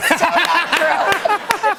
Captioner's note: laughter